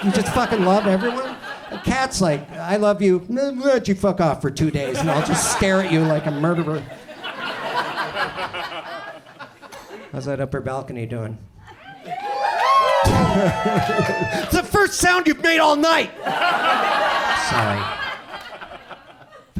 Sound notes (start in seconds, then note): 7.3 audience laughs; 11.8 audience cheers; 16.0 audience laughs